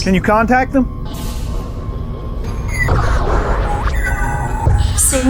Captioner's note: systems whirring